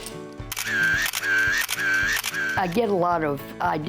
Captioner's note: camera shutter clicking